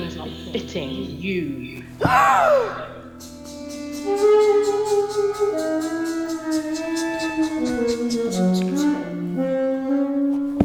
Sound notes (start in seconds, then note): 1.9 gasp, music